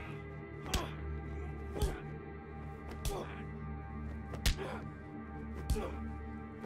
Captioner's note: grunting; smacking